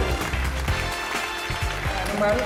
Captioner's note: applause